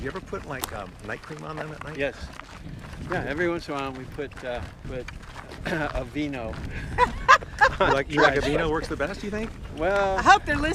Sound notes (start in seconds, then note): 6.8 Kim laughs